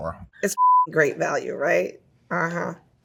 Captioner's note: beeps